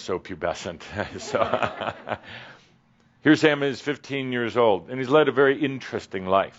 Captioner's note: Adamus chuckles